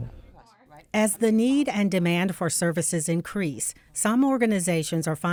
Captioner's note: voiceover